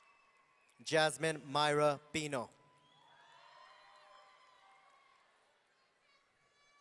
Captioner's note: audience cheering